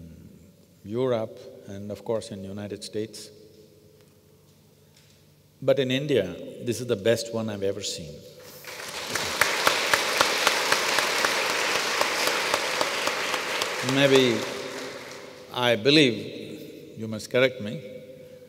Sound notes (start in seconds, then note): 9.4 applause